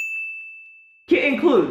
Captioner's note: bell dinging